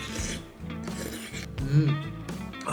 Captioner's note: slurp